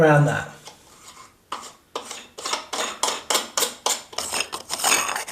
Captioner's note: metal twisting